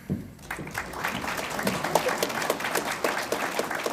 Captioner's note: audience applauds